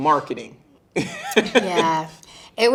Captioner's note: interviewer chuckling